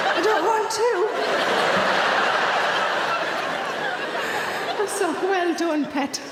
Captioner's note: audience laughing